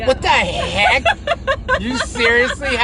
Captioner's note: laughing